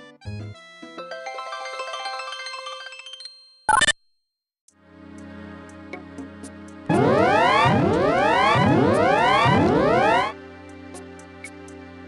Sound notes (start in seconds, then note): 3.7 bloop!; 6.9 woop! Woop! Woop! Woop!